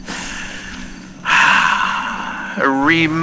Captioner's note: Alastor inhales and sits fx